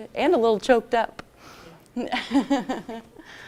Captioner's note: laughs